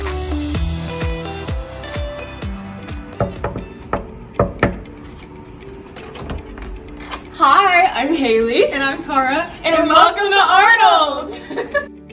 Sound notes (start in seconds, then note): 3.2 soft knocking